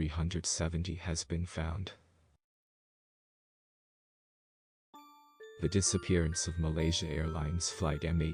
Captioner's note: voice-over